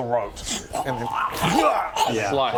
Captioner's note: hwarrgh